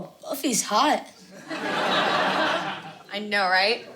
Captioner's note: audience laughing